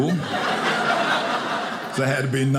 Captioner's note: audience laughing